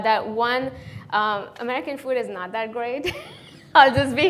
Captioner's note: laughs